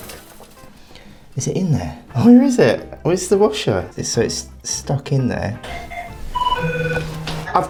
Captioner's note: phone rings